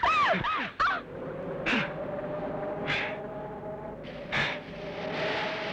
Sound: panting

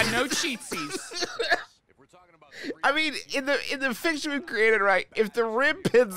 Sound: laughing

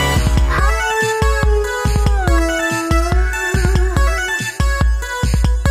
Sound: awooo~

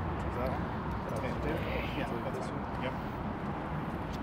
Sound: crew murmurs

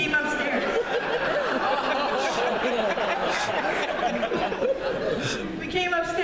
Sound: laughter

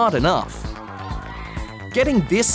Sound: all cheer

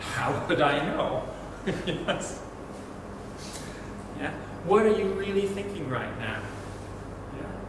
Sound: laughs

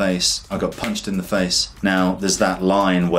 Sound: taps

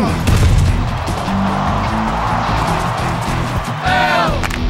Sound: crowd roars; crowd

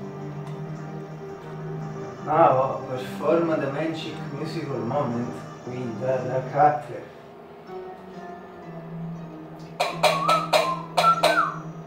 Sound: whistle

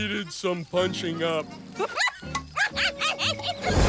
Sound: laughing

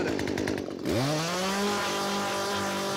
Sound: chainsaw running

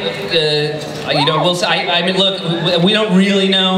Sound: stammers

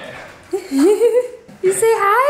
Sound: laughs

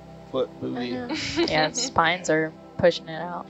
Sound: woman laughs

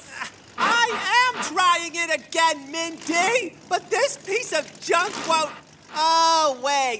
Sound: gears continue to grind

